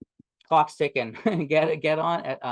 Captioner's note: chuckles